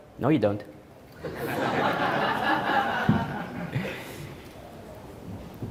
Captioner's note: audience Laughing